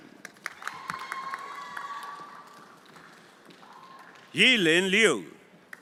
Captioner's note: everyone applauding